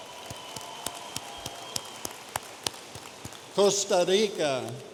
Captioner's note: audience applauding